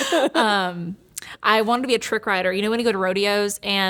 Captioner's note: laughing